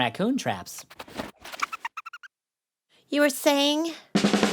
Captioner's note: chattering